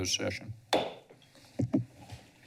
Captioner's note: gavel tap